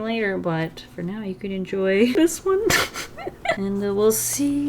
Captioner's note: laughs